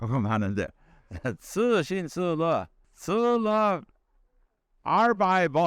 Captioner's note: speaking Chinese; 중국말로; speaking Chinese; 중국말로